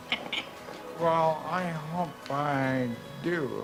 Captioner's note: giggling